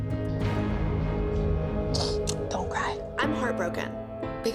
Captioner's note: sniffling